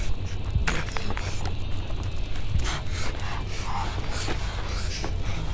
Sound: John breathing heavily

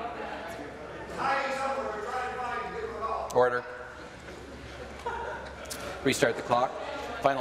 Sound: conversation din

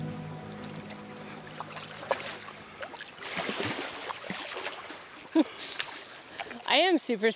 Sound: splashing

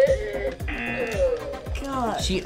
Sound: buzzer rings

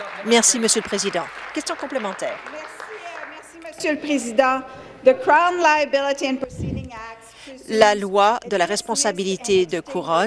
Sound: applause

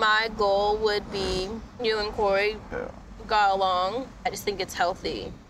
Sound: scoffs

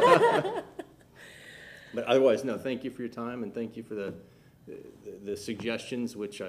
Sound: laughter

